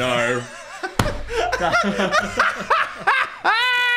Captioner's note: Dan laughing